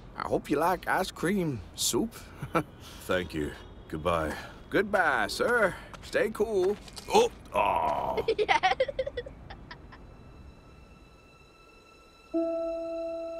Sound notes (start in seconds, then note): 2.3 chuckles; 7.5 man groans; 7.9 child laughs; 9.9 sad orchestral music